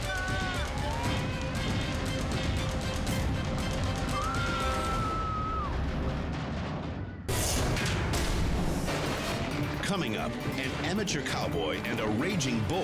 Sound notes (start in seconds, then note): 4.1 screams